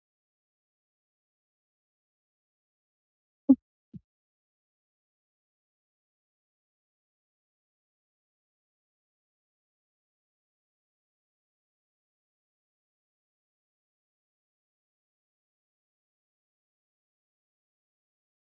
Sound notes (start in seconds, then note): 0.0 silence